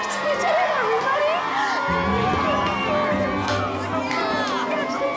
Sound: screaming, cheering

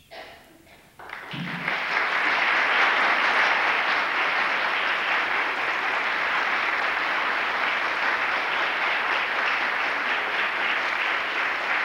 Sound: applause

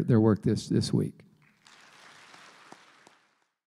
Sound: applause

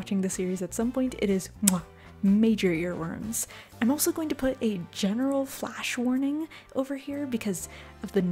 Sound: mwah

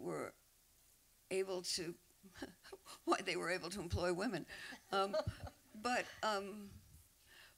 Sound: laughs

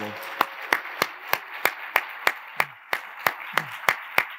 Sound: attendees applauding

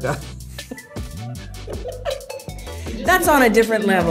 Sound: laughter

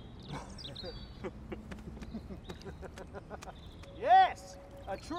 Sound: laughing and crying

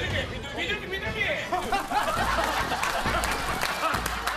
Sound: flaps

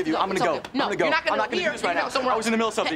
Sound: arguing

